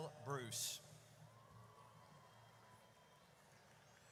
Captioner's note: audience cheers